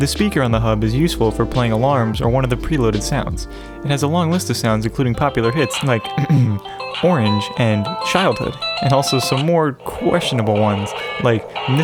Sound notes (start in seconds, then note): 6.1 ahem